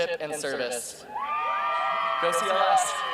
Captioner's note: cheering